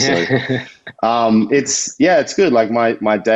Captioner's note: chuckles